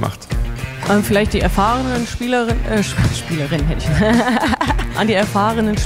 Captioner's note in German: lacht